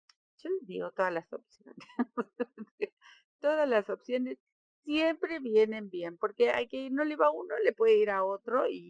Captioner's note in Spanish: risas